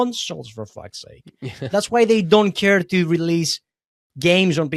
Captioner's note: laughs